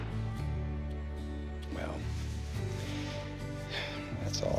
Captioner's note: sighs